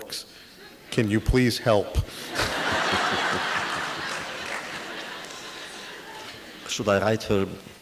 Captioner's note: audience laughter